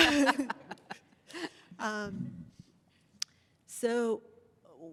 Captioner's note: laughter